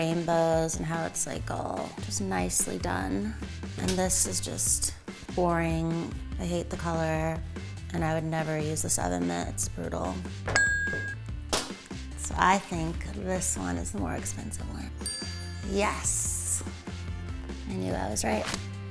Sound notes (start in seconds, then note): 10.5 bell dings; 15.0 bell dings